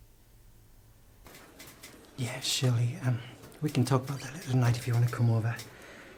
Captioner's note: on phone